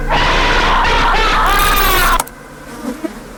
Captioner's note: screaming crescendos